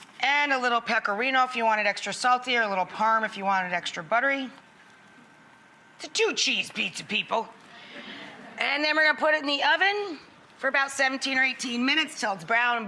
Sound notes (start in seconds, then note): 7.7 audience laughs